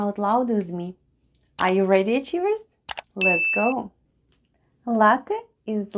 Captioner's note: click and ding sounds